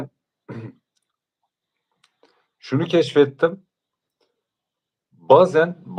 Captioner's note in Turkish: boğazını temizler